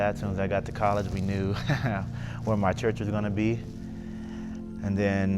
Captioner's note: laughs